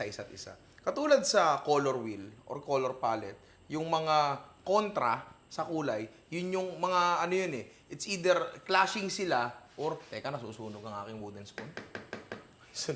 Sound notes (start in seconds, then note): none